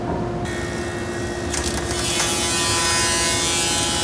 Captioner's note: machine whirring